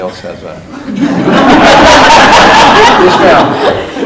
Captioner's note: board laughing